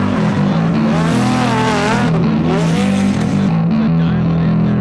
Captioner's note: rock music; engine roaring